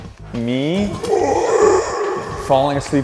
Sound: groaning

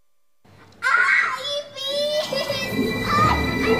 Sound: screams

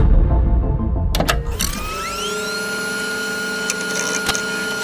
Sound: mechanical whirring

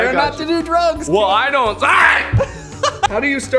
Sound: shock

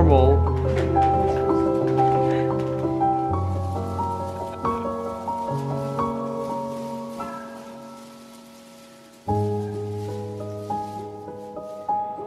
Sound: relaxing Romantic Piano Music; soft background chatter

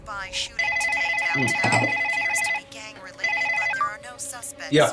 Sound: telephone ringing

